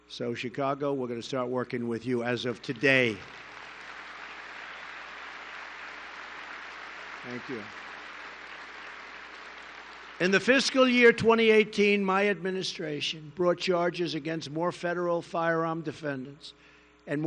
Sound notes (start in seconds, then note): 2.6 applause